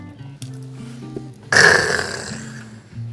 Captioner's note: sighs